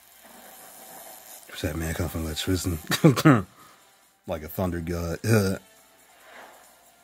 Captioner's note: chuckles